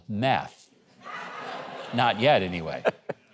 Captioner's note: audience laughing